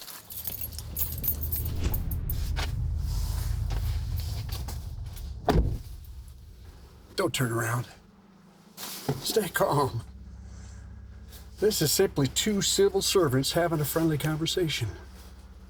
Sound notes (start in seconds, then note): 2.3 tense music; 5.5 door shuts